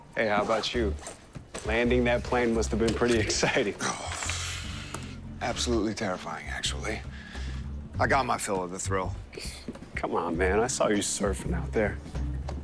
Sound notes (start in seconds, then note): 3.8 groans